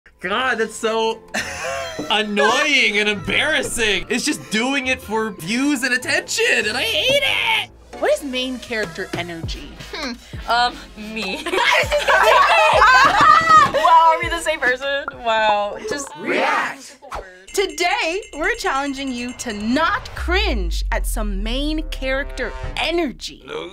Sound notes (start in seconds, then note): 11.4 both laugh; 16.2 crowd